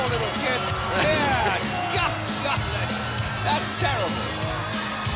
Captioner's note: laugh